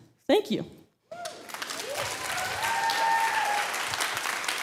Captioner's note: audience clapping